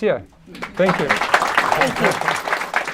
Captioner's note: applause